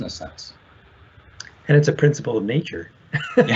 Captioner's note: laughs